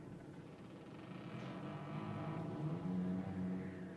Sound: door Creaks Open

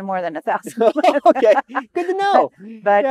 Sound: both laugh

